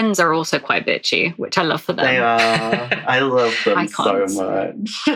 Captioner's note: laughs